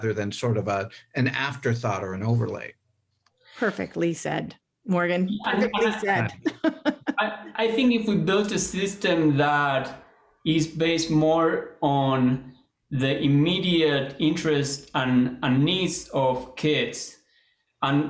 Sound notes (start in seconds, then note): 6.1 laughter